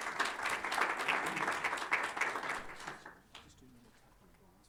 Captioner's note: applause